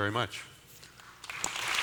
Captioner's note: applause